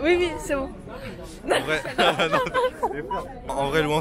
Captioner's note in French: rire